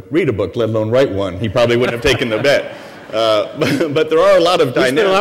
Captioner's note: laughter